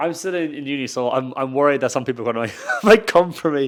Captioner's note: chuckles